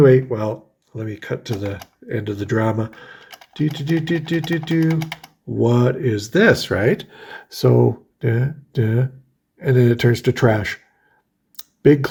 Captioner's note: happy noises